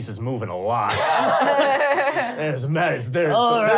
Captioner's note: laughing